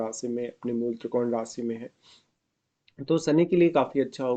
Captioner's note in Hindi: नाक से की जाने वाली आवाज़